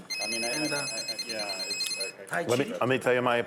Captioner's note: telephone ringing